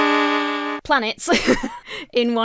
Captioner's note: laughs